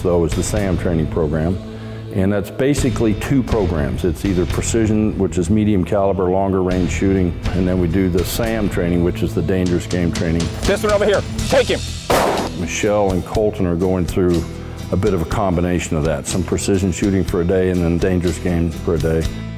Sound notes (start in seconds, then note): 12.0 gun shot